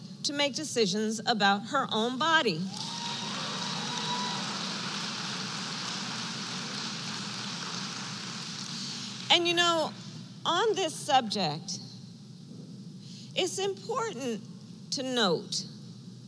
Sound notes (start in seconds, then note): 2.7 applause